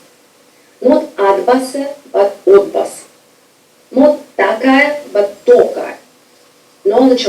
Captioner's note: speaking foreign language